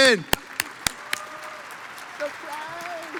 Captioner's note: audience applauds